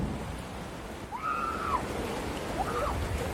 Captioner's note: excited screaming